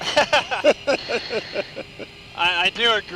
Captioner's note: both laugh